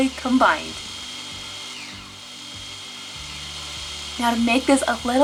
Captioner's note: blender whirring